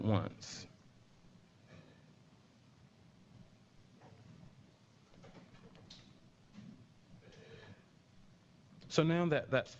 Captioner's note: pause